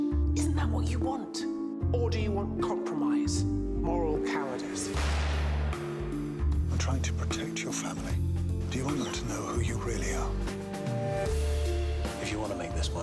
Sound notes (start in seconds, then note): 4.9 gun shot